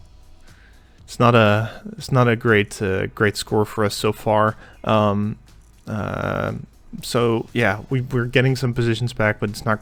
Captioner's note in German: Seufz der Enttäuschung